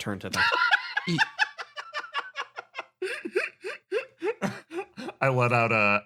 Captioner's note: laugh